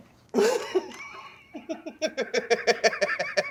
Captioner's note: laughter